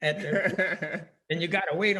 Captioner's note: laughing